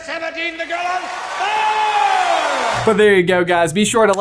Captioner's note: crowd cheering